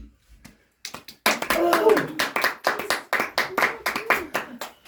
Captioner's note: audience claps